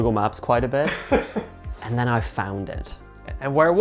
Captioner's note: laughing